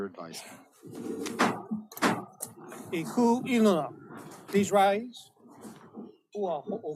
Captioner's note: gavel bangs twice